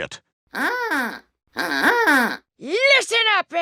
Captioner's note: goose call honks